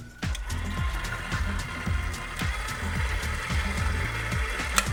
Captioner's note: mixer whirs